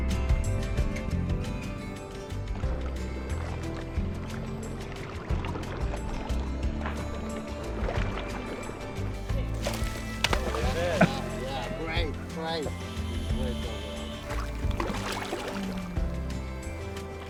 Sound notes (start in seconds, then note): 5.2 salmon splashes water; 14.9 light bright music